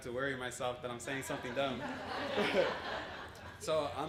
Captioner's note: laughter